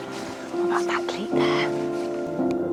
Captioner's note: whispers